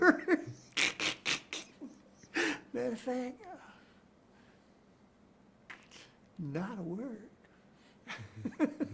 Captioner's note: chuckles